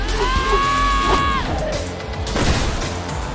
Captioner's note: screaming